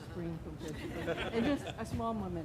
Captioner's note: laughing